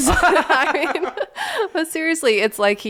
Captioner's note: laughing